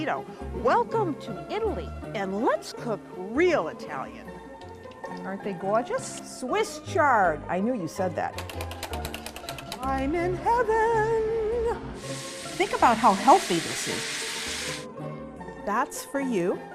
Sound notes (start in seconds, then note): 9.7 singing; 11.9 sizzling